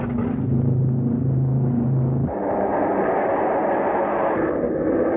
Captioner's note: airplane engines roaring